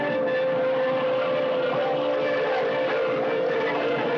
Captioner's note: barking